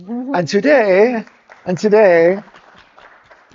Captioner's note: audience clapping